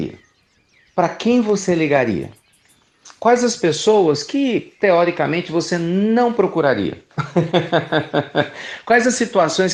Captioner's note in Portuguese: Risos